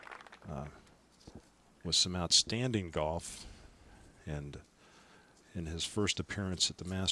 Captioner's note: applause